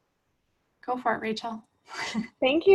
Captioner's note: giggles